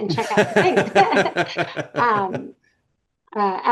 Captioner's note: laughing